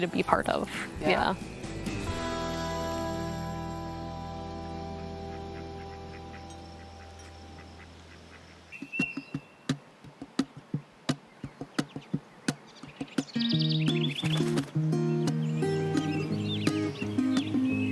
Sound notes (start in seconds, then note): 5.1 ducks quacking; 10.5 gentle acoustic guitar music